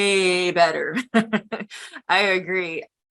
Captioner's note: laughs